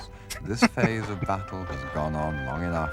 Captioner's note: chuckling